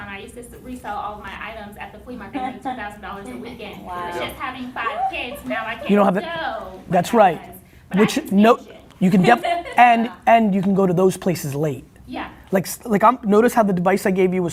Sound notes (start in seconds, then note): 2.3 laughing; 3.9 cheering